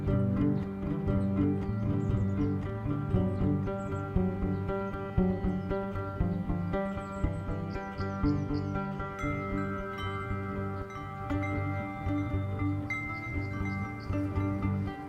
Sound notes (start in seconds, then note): 8.7 wind chimes dings